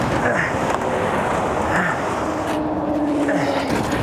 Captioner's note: grunting